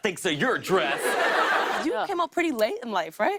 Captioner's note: laughter